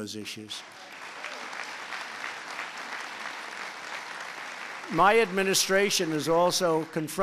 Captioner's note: applause